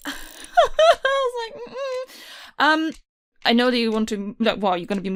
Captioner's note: laughs